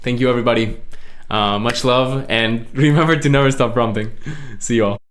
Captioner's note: laughs